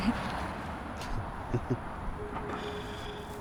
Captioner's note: chuckles